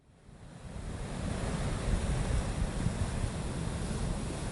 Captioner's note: waves crashing